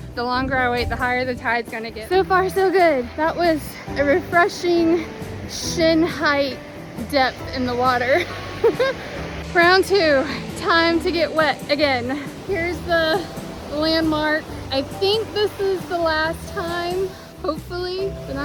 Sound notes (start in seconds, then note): 8.2 giggles